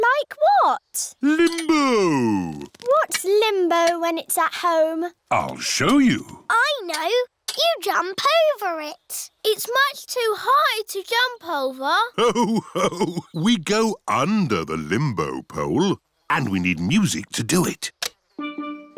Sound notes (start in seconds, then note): 12.1 laughs